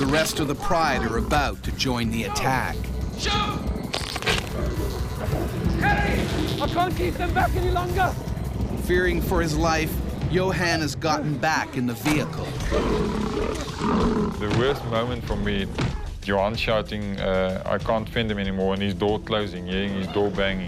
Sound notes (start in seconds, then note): 9.1 voiceover